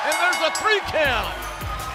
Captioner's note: bell ringing